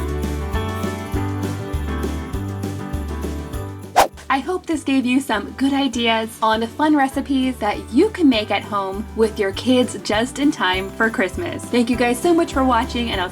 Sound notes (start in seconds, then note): 3.9 air whooshes